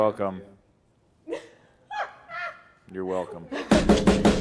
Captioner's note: laughs; upbeat music